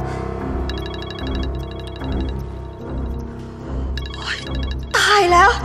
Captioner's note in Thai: เสียงโทรศัพท์